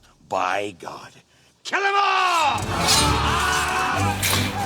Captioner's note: men shouting